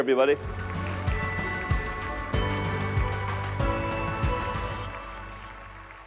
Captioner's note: applause